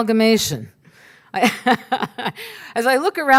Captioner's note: laughs